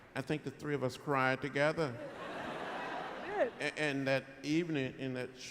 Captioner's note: laughter